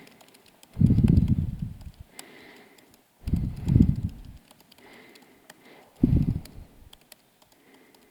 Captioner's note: pause